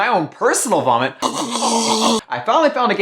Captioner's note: choking